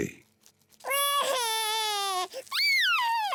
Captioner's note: cries